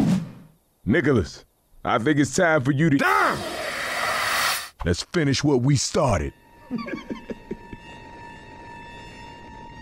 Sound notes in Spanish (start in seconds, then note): 6.6 Coach se ríe